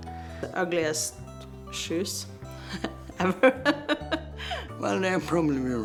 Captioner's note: laughing